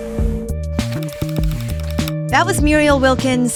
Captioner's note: gears turning